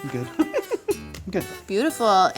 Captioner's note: laughs